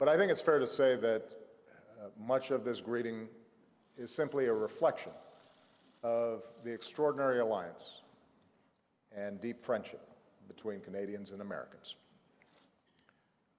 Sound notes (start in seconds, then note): none